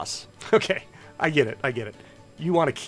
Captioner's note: chuckles